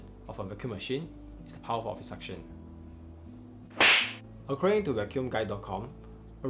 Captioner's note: slap